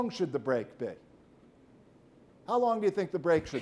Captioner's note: man coughs